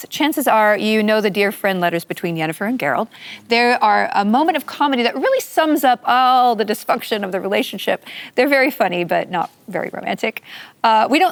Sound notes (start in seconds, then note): none